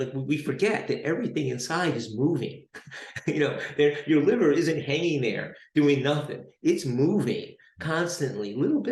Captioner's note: chuckles